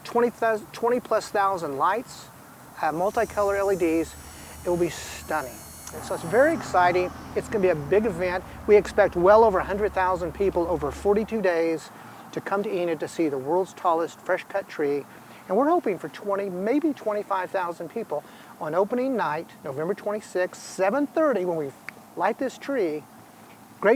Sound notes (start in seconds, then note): 5.3 electricity whirring